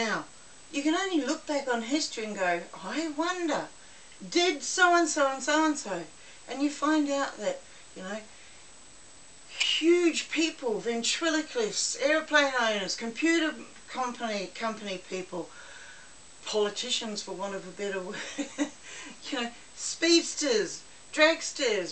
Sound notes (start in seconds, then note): 18.4 laugh